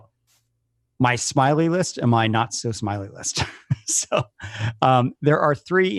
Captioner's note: laughs